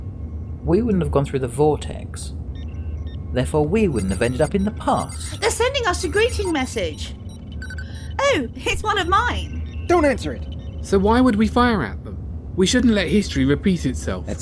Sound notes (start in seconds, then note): 3.8 beeping noise